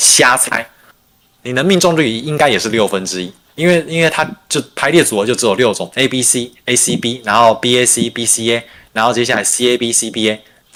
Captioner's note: non-english speech